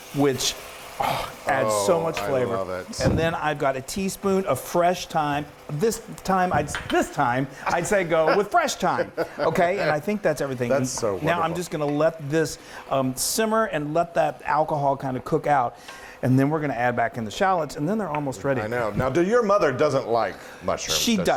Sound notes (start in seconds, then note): 8.2 laughs